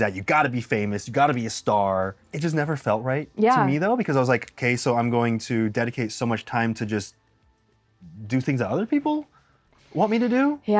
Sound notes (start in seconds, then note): none